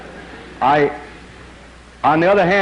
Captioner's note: laughter